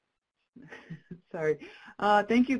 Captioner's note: laughs